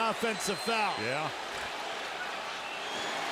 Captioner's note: whistle